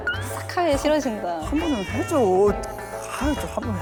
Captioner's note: whining, whining